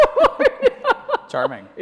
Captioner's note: laughing